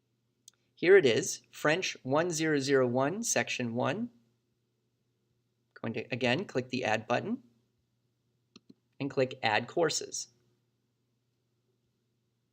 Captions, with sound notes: Here it is - French 1001, Section 01. Going to, again, [CLICK] click the Add button [CLICK], and click Add Courses.